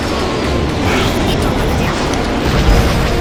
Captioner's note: vulture droid confused rambling